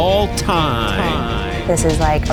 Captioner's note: echoes